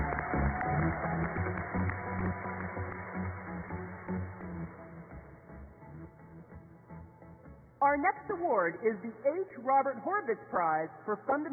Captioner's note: applause